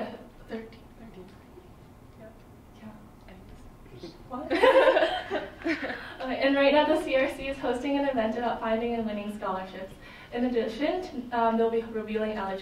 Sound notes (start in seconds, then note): 4.5 laughter